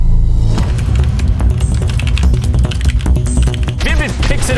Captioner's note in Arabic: صوت نقر على لوحة مفاتيح الكمبيوتر وأجواء لعبة Fortnite